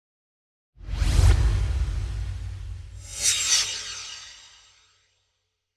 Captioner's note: swoosh